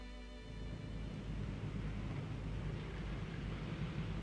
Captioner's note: car engine hums